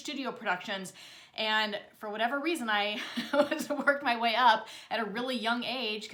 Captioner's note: chuckles